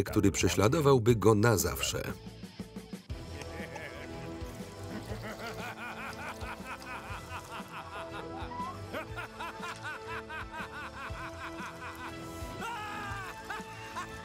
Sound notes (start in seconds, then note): 3.1 maniacal laughter